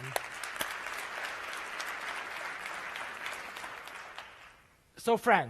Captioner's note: applause